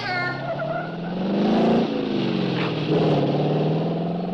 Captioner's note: engine revving